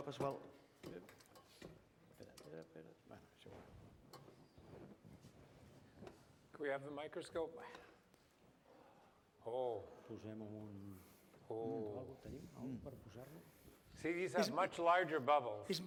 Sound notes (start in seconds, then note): 3.2 non-english speech; 11.2 non-english speech